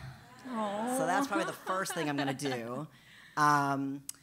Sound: laugh

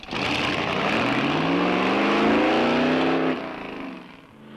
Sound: engine roaring

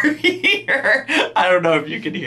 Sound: laughing

